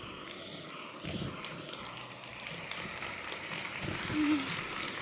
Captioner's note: audience applauding